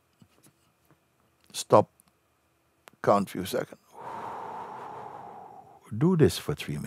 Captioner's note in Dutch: ademt langzaam uit